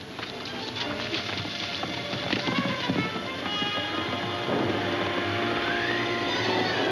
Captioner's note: ominous music; wind howling